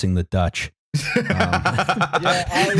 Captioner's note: laughter